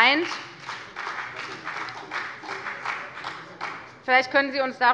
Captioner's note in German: Beifall bei der FDP